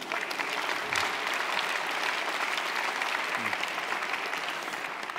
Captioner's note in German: Lachen, Applaus